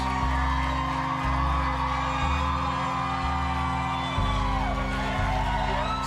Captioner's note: audience cheering and applauding